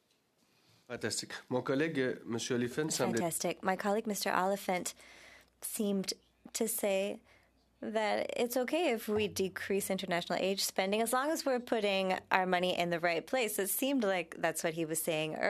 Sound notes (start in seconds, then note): 7.5 speaking French